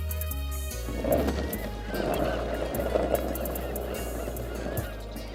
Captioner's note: skateboard rolling